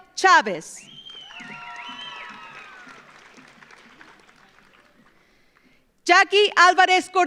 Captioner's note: audience cheers; audience applauds